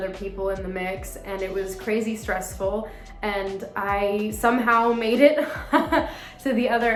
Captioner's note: chuckles